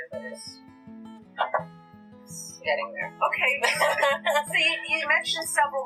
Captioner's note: laughter